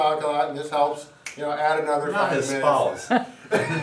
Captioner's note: fingers snap; laughing